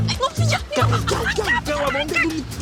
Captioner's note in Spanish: Hablan al unísono